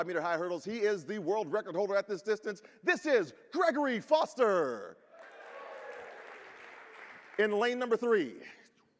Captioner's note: applause by the audience